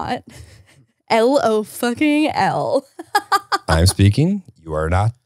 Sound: laughs

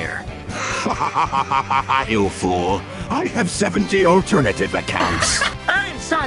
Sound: haha

